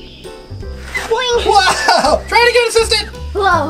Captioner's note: laughs